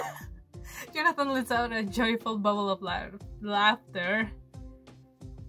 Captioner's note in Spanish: Jonathan suelta una alegre risa